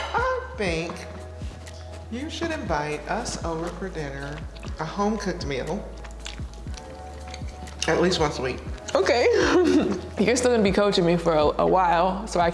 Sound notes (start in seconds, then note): 9.0 laughs